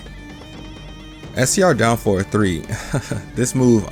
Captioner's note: chuckles